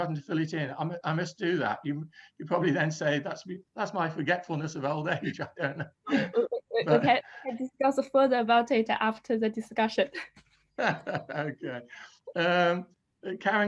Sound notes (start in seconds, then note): 6.0 laughs; 10.8 laugh